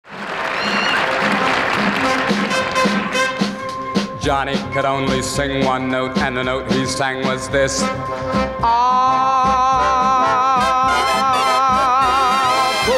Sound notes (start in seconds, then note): 0.0 audience clapping and cheering